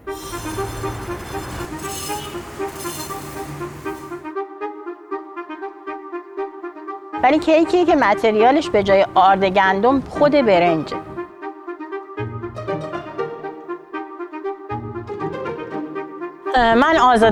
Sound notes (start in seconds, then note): 0.1 bright music; 7.2 speaking in foreign language